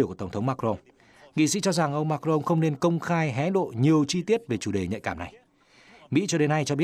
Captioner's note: French